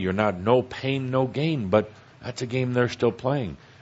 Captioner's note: none